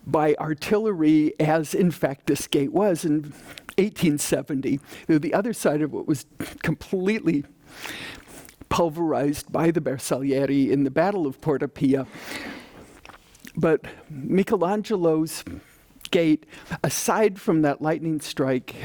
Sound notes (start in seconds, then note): none